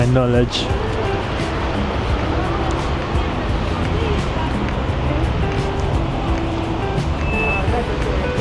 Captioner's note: wind Blowing